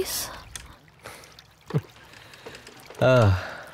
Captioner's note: Chuckles